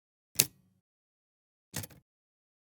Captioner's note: typewriter key clicks